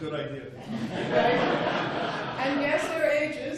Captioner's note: laughing